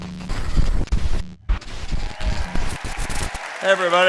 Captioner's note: cheering/applause